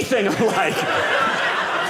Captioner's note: audience laughing